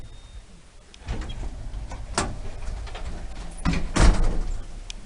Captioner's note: doors close when sensors don't detect movement, nice sounding door motors